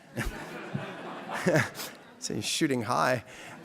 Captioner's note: audience laughing